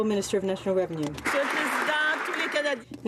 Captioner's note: some Applause